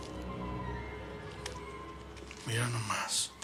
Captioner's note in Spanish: ruido al desenvolver algo